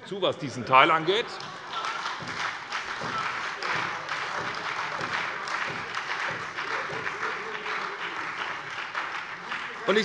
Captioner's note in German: Heiterkeit und Beifall bei der SPD, dem BÜNDNIS 90/DIE GRÜNEN und der FDP